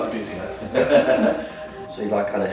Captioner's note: laughter